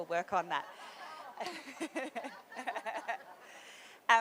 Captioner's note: laughter